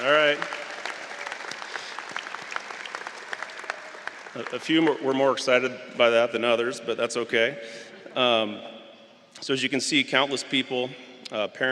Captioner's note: applause